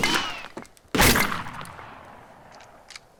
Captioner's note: gun shot